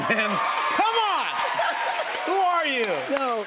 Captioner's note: cheers and applause